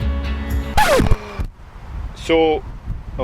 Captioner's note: disc Scratch